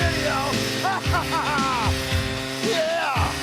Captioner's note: laugh